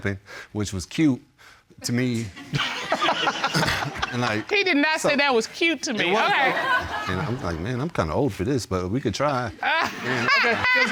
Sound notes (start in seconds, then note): 2.3 all laugh; 9.6 laughing